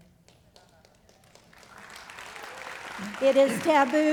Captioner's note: applause